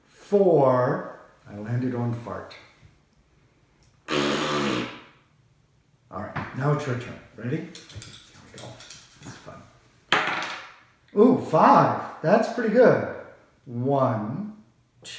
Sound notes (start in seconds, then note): 4.0 blows a raspberry